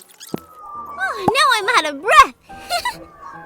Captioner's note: laughs